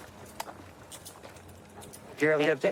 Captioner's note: handcuffs clicking